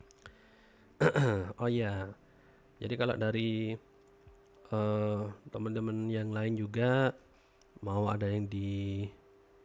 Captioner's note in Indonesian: berdehem